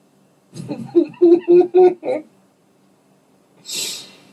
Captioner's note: laughter